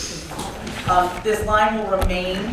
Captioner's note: gavel sound